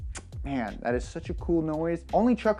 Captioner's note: smacks